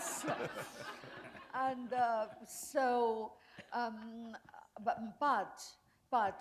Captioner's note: laughter